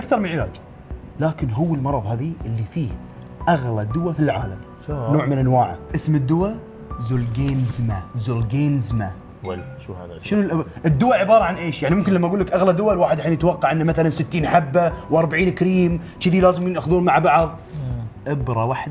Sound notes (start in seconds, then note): none